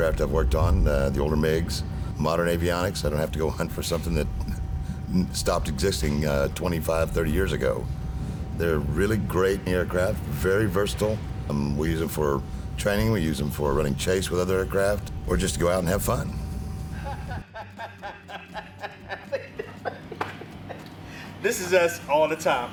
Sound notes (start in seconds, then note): 16.9 laughing